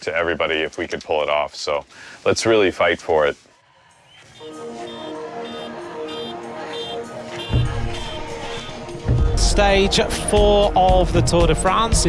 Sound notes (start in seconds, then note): 4.4 suspenseful music; 6.6 car honking